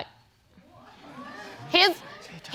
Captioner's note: audience exclaiming